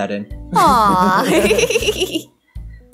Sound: both laugh

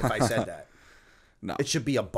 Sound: laughter

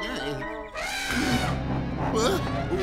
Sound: groaning; elephant horn

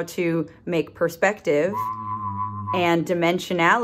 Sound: whistle

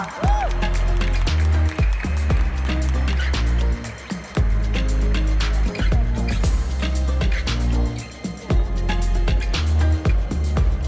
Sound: applause; ♫ Midtempo guitar music ♫

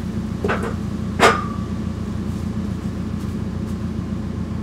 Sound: track frame clangs

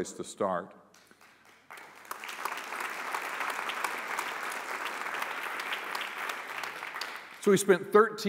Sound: applause

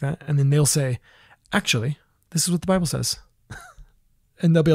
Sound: laughs

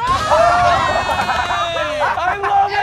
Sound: laughter

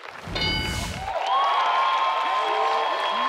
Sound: cheering

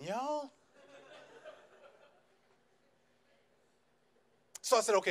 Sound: audience laughs

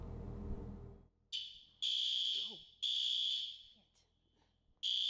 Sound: fire alarm buzzes

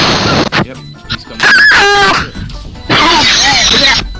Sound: autistic screeching

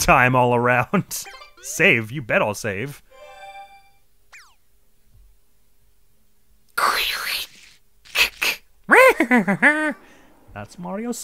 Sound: mimics the M-painting sound and accompanying laugh

